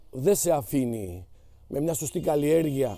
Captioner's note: car horn